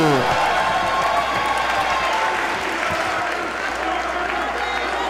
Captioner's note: applause